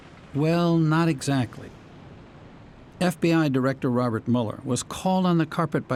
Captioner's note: voice-over